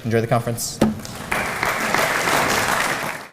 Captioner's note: applause